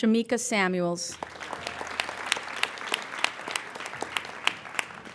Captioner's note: applauding